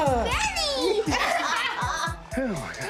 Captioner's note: laughs